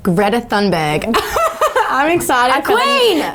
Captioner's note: laughing